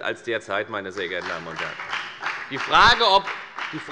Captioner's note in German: Beifall bei der FDP